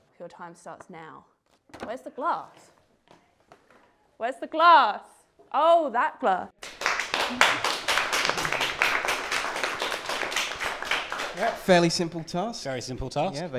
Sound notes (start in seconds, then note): 6.6 applause